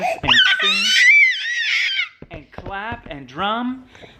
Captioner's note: baby makes excited noises